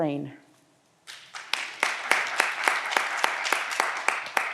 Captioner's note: audience applause